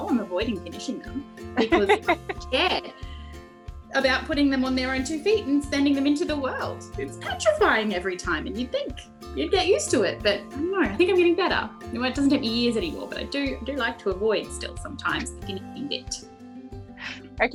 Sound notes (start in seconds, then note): 1.6 laughter